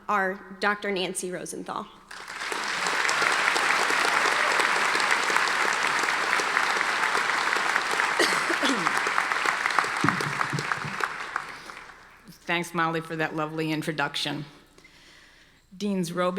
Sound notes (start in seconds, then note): 2.2 audience applauding